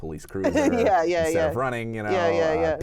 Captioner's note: laughs